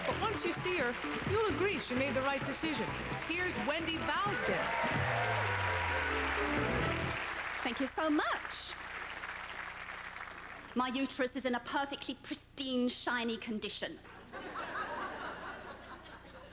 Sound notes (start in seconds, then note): 10.5 British accent; 14.1 laughter